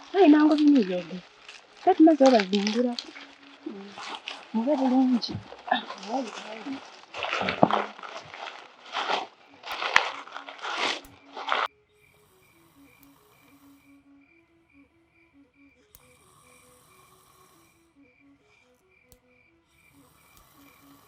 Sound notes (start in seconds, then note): 12.0 snouring; 15.8 wood cracking